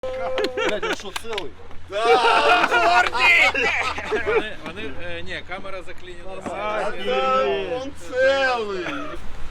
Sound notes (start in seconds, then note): 0.0 men aplaude and laugh